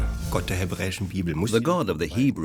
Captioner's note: speaking German